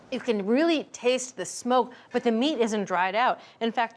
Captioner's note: none